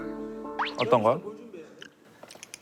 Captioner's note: chewing